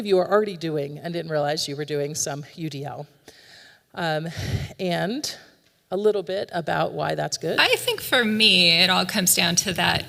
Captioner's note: audio recording plays